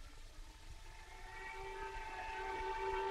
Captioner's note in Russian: сирена тревоги